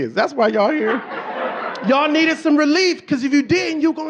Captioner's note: audience laughing